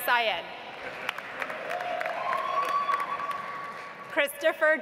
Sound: audience applauds

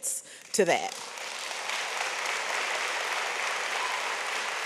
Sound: audience applauds

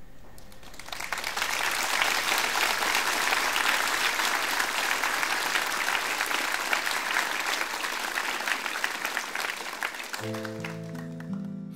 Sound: applause

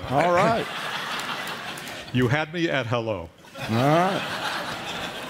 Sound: laughter

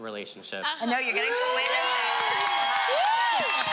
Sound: audience cheers

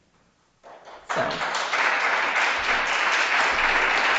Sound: audience applauds

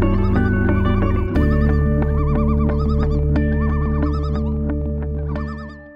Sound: loons call

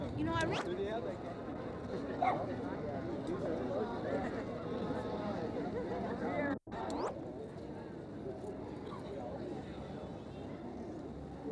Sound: ambient noise and chatter

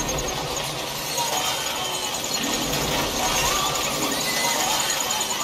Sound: bats wings flapping

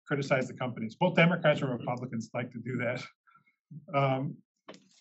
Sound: laugh

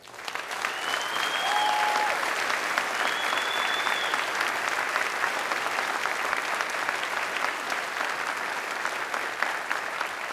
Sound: applause

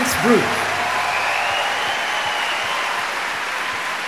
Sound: audience cheers

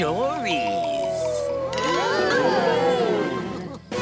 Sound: gasping

